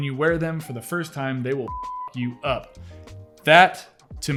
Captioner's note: beep